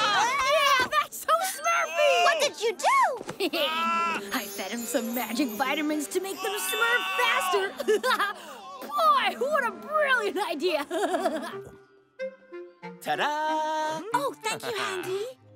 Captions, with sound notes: Hey, now that's so smurfy! What did you do? [chuckles] I fed 'em some magic vitamins to make them smurf faster. [giggling] Boy, what a brilliant idea. [chuckles] Ta-da. Oh, thank you, Handy.